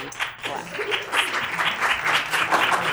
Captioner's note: clapping